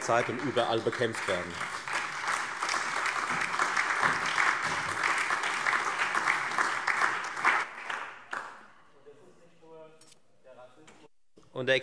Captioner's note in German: Allgemeiner Beifall